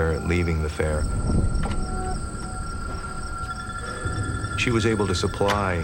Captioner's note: whoosh